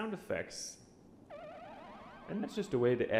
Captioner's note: creepy sound effect